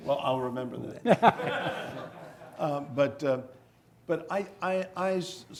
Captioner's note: audience laughing